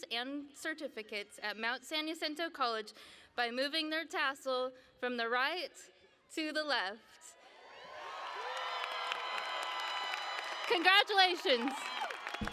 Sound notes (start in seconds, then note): 7.4 cheering